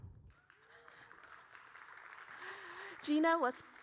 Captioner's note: audience applauding